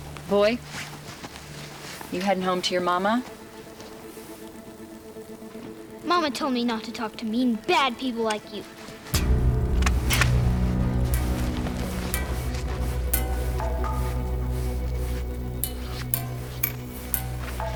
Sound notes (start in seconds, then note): 10.5 gun loads; 10.5 suspenseful music